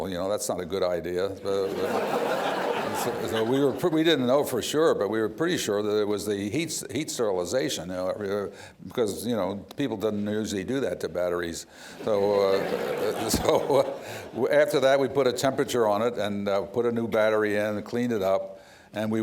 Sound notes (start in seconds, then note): 1.6 laughter